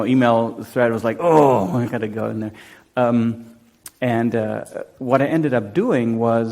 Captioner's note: groans